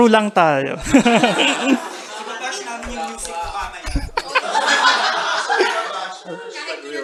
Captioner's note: laughter and murmurs